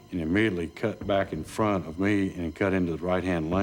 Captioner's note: none